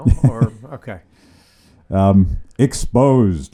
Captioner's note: laughs